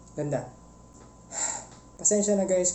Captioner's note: sigh